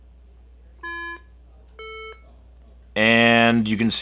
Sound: iPhone beeping

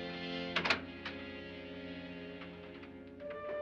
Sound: ominous music; door opens; ominous music

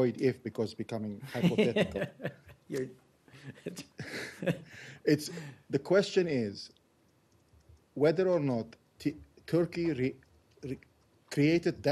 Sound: laughter

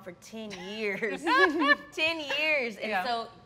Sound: laugh

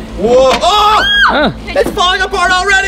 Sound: screams loudly

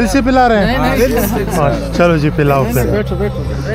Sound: laughter and greeting

